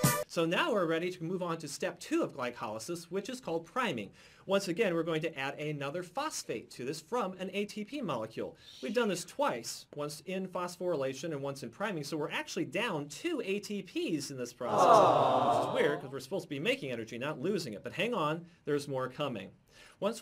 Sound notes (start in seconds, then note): 14.7 audience interjecting: "Aaawww!"